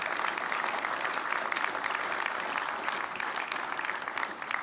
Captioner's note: applause